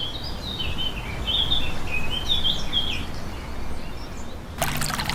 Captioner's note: birds calling